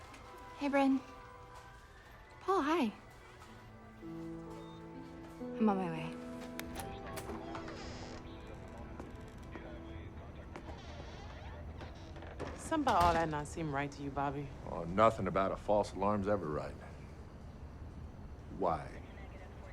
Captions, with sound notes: - Hey, Bryn. Paul, hi. (gentle tense music) I'm on my way. (door latch clicks) (hinges squeaking) - Something about all that not seem right to you, Bobby? - Oh, nothing about a false alarm's ever right. Why?